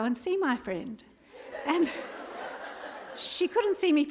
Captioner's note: laughter